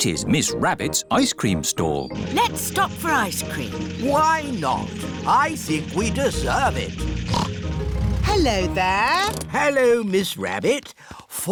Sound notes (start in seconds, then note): 7.2 snorts